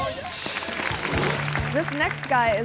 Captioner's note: upbeat music; image whooshes; audience clapping